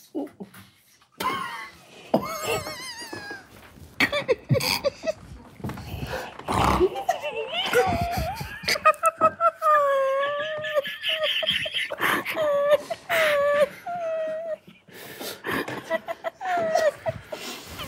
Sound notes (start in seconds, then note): 1.2 group quietly laughing; 6.0 group quietly snort-laughing; 13.0 group quietly snort-laughing continues